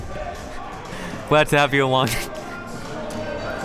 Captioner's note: laughs